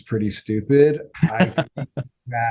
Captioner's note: laughter